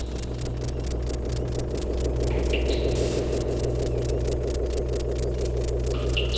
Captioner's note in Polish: Niskie, oscylujące dudnienie nasila się i opada